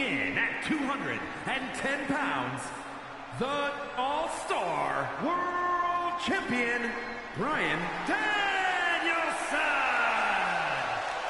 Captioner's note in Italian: Applauso